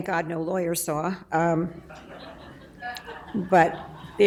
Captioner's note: laughing